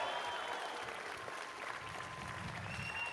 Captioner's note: cheers and applause